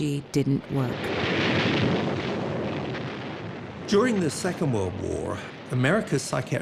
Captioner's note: bombs roaring, guns firing